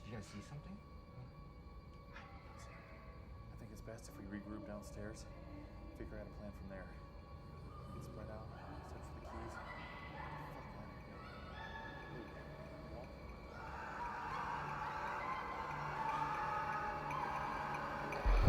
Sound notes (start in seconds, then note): 10.3 whispering voices; 13.5 screaming